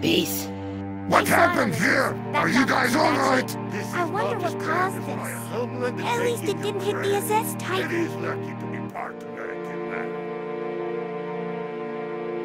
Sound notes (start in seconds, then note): 1.0 Jumbo Squad Team's concerned commotion